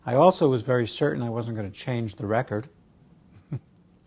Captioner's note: laugh